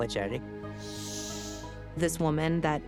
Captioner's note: shushes